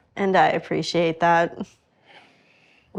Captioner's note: laughs